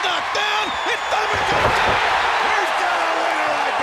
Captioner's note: crowd cheering